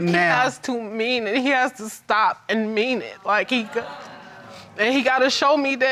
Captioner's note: audience disagreeing